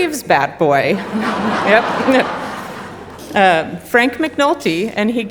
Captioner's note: audience laughing